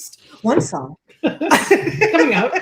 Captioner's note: laughs